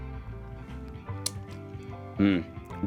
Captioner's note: lip smack